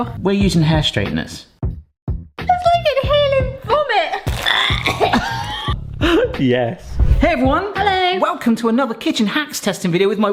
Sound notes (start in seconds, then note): 4.3 coughs